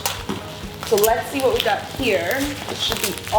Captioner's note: bubble wrap crinkles